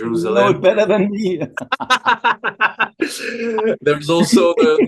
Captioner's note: laughter